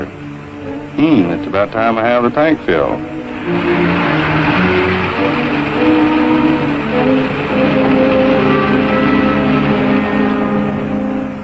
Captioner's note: car revving